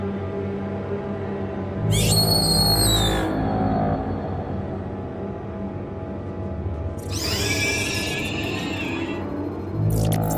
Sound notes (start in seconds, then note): 0.1 suspenseful horror music; 1.8 shriek in distance; 7.0 multiple shrieks at once